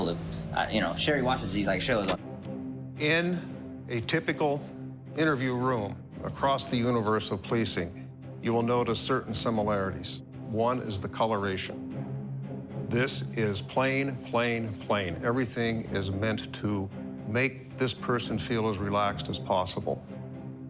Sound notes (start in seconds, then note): 1.8 clicking